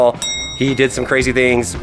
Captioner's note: bell ringing